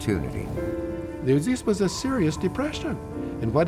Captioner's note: gusts of wind